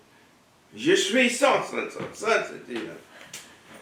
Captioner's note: speaking french